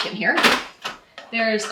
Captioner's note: printer tray rattles